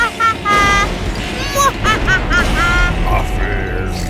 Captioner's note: dramatic music; evil laughing; thunder rumbling